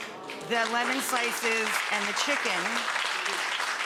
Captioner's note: audience applauds